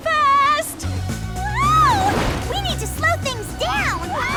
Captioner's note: the spies scream